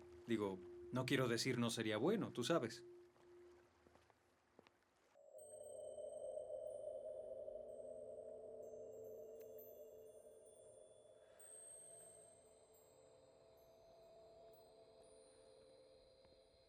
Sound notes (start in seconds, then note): 7.2 chimes tinkle